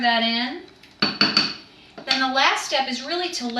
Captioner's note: utensils banging